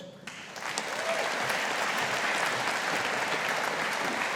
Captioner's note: audience applauding